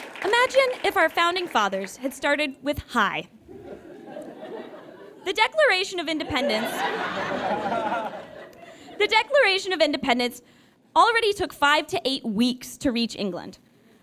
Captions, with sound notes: Imagine if our founding fathers had started with "Hi". The Declaration of Independence... (audience guffaws) The Declaration of Independence already took five to eight weeks to reach England.